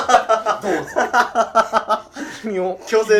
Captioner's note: laughing